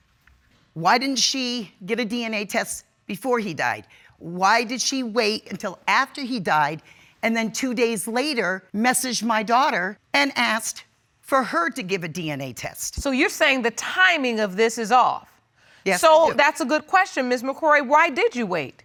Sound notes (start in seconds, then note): none